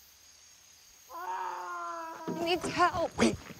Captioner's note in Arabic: سام يصرخ